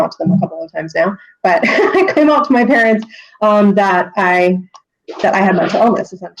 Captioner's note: laughs